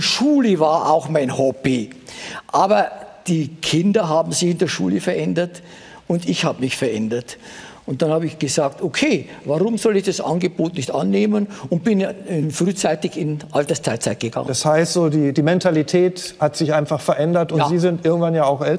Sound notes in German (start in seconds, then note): none